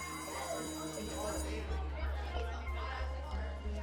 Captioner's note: bell rings; background chatter